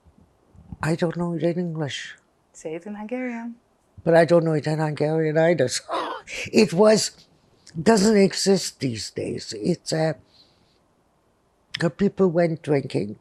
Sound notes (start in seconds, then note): 5.8 laughing